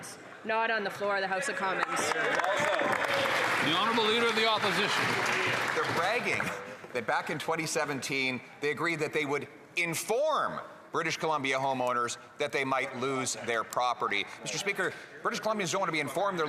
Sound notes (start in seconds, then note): 7.2 applause